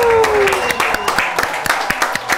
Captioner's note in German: Jubel, Applaus